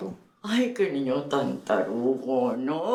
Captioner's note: Spanish